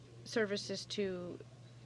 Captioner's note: speaking French